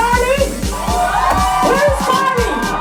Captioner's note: crowd cheers